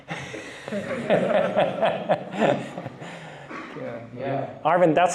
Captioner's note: laughter